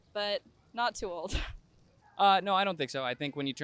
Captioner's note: laugh